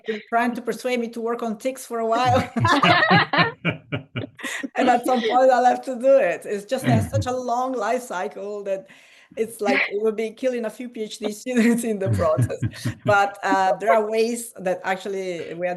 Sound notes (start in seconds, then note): 2.2 laughter